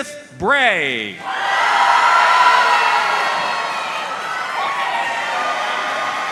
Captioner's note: audience cheering and applauding